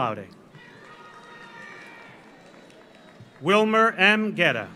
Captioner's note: audience cheers; audience applauds